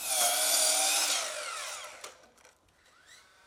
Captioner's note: saw grinding